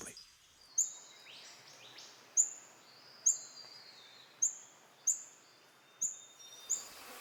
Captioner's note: birds chirps